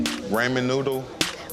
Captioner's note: suspicious string music; people chattering